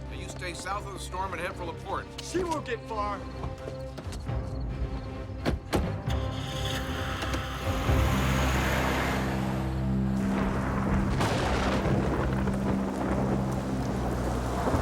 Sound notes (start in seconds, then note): 9.9 thunder rumbles and claps